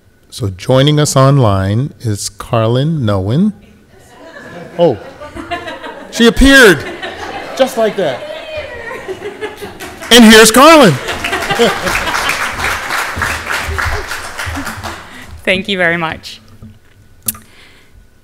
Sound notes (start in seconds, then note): 9.6 laughing; 11.3 audience applauds